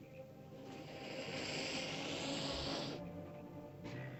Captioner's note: ominous music; lizard hisses; ominous music